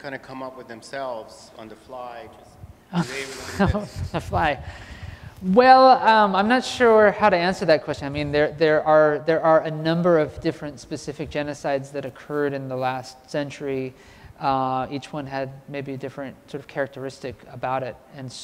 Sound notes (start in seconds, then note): 2.9 laugh